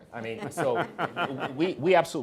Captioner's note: laughing